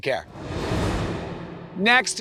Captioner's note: transition whooshes